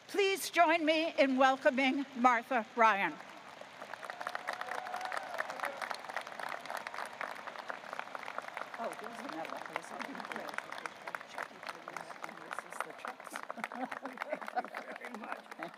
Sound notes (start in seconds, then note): 4.4 audience cheering and applauding; 11.5 chancellor faintly speaking